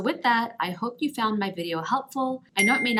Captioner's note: bell ringing